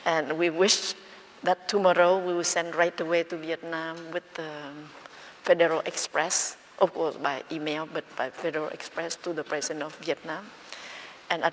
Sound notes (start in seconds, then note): none